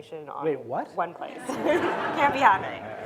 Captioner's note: audience laughing